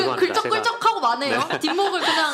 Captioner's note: laughter